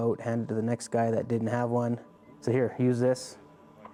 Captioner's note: voiceover